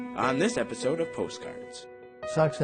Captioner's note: voiceover